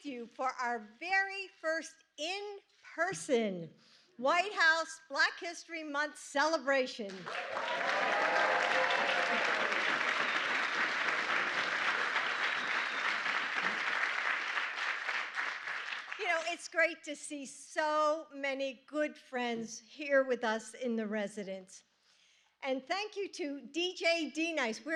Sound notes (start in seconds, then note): 8.6 applause